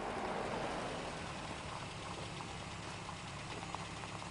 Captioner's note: vehicle approaching